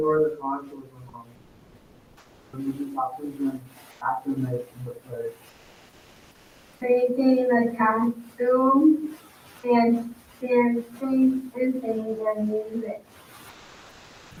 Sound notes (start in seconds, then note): 0.3 speaking faintly off mic; 7.2 speaking faintly off mic